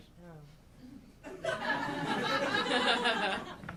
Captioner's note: audience laughing